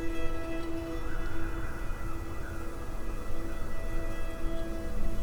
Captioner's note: wind whistling